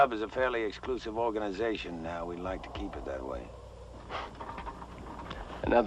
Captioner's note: scoffs